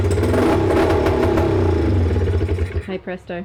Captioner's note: engine starting